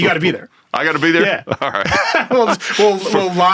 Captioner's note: laughs